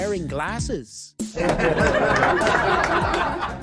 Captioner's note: laughter